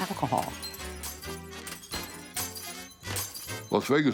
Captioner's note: glass shattering; swing music